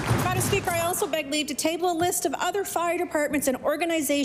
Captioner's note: applause